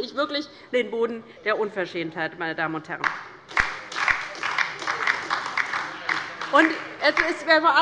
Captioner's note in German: Beifall bei der LINKEN und Abgeordneten der SPD